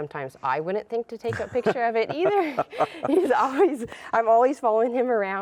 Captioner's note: laughs